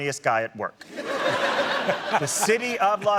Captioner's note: laughter